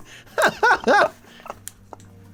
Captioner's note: laughs